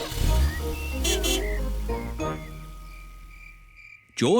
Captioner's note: horn honks